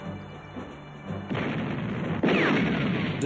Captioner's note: explosion